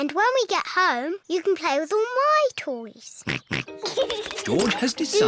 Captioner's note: snorts and giggles